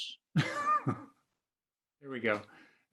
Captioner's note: laughs